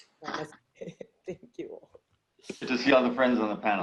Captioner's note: laugh